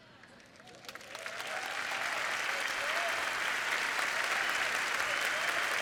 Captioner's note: applause